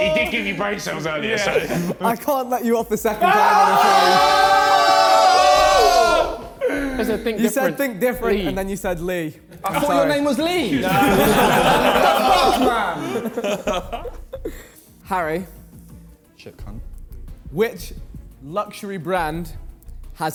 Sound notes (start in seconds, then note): 3.1 men shouting; 10.5 men laughing